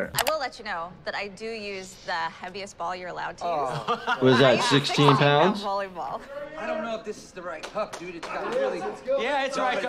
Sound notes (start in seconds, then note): 3.6 person in blue shirt laughs